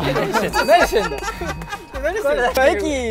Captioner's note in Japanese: 効果音 チーン